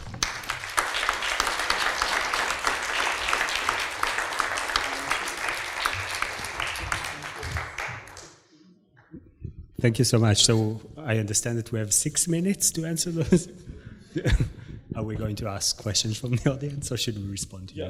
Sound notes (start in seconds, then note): 0.0 applause